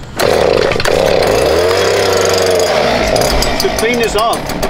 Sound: grinder winds down; gas powered air blower starts

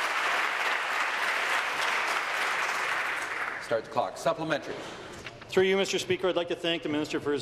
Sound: applause

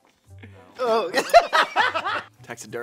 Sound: laughs

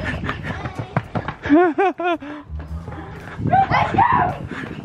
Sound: laughing

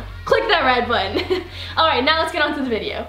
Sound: giggles

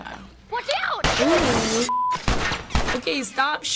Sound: gunshots

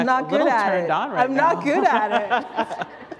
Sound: chuckle

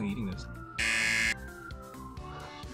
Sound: buzzer

